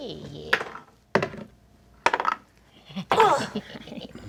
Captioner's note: lots of dice clatter; gremlin-like chuckling